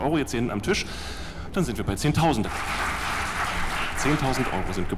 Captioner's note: applause in the back